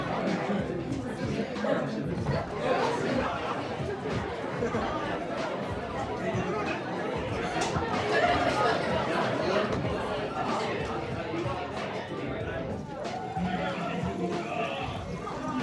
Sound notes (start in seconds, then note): 1.5 background chatter